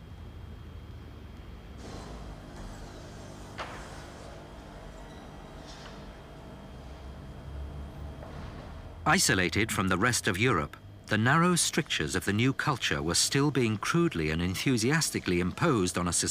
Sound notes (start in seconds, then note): 1.9 machinery whirring